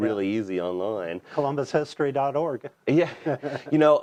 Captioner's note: laughs